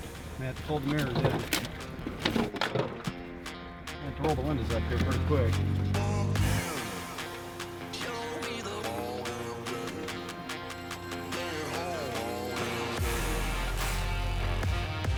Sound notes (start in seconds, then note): 4.0 engine revving; 8.7 upbeat music; 11.8 engine revving